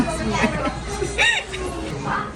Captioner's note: laughter